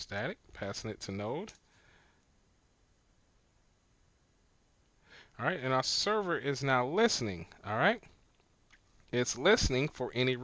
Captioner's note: silence